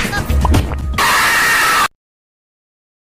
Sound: screaming

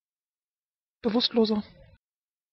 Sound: fast Pronunciation

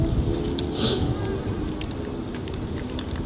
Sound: sniffs

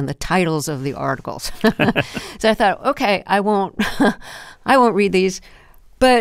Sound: laughter

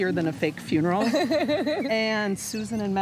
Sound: laughing

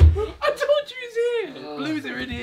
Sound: laughing

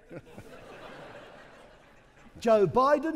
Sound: audience laughing

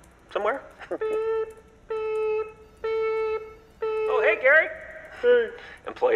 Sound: beeping noise

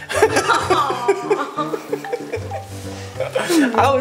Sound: laughter

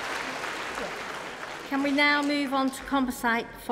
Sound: cheering & Applause

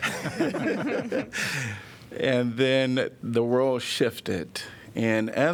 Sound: laughter

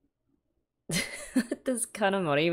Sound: laughs

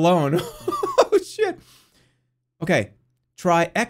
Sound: nervous laughter

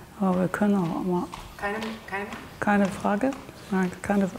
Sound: both speaking German

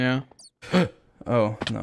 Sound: gasps

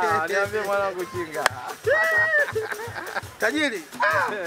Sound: laughing

